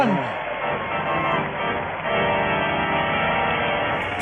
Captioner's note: audience applause